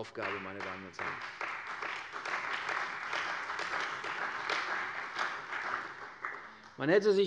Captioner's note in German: Beifall bei der CDU und dem BÜNDNIS 90/DIE GRÜNEN